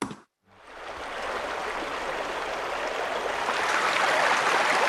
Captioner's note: water babbling